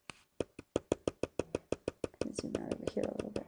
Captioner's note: hard tapping